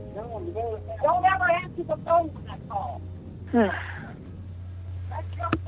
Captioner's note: sigh